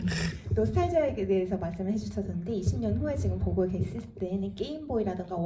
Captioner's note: speaks in foreign language